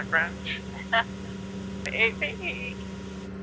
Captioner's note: laughs